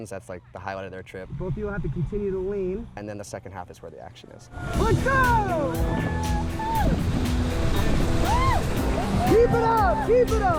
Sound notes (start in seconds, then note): 6.2 all cheering; 8.0 water rushing